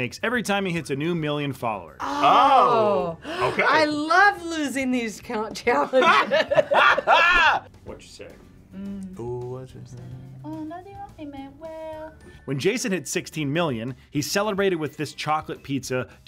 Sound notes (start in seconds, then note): 5.8 both laugh